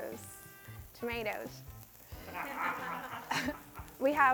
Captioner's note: crew laughs